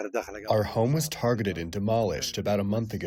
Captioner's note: through translator